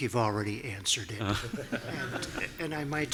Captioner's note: laughing